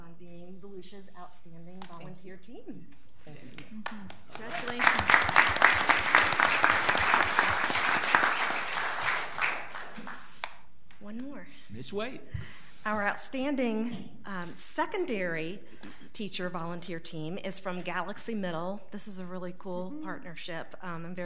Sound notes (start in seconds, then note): 6.8 all applauding